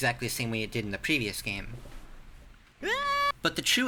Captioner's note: Morishige scream